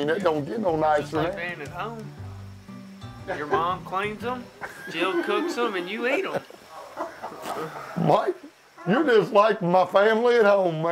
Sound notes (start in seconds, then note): 4.5 men laughing